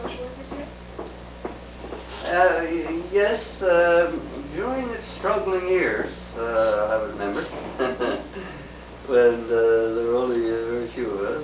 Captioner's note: laughs